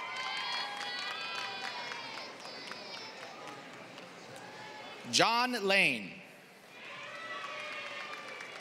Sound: applause; applause

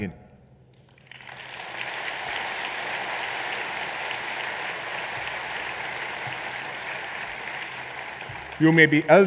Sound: applause

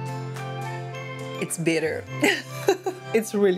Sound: laughs

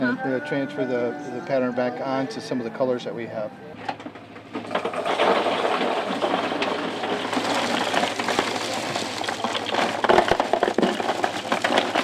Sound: pouring ice into a cooler

